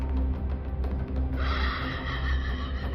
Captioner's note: laughs